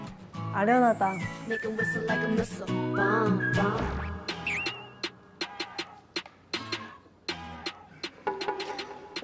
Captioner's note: starting with the whistle, goes completely wild